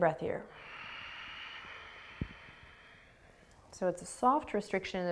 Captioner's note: exhaling